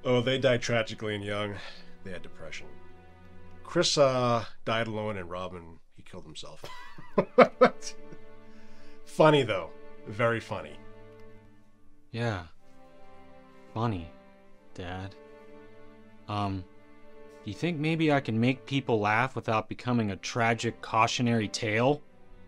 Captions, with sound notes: - Oh, they died tragically and young. They had depression. Chris died alone, and Robin, he killed himself. (laughs) Funny though. Very funny. - Yeah, funny, dad. Do you think maybe I can make people laugh without becoming a tragic, cautionary tale?